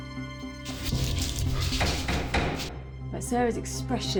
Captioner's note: knocking on door